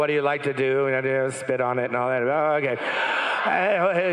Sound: crowd laughing

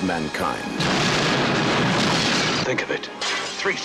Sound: explosions

